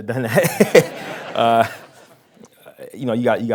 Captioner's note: laughing